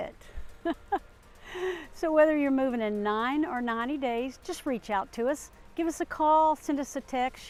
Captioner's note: laughter